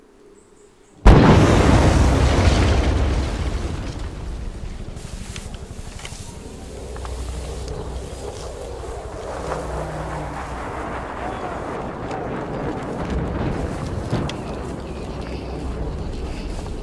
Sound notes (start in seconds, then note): 1.0 exploding; 5.3 grass rustling; 8.1 jet engine roars; 11.7 distant shouting; 13.7 distant explosions